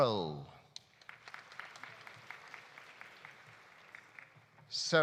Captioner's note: audience applauding